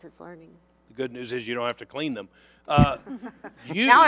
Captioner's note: laughter